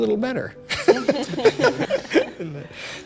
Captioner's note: laughter